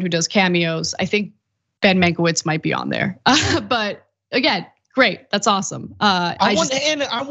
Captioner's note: laugh